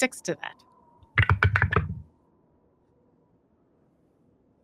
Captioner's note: dice rumbling